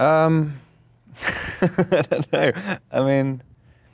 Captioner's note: laughs